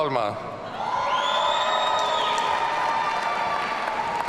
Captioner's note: audience cheering